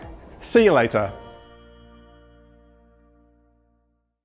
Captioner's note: chimes ringing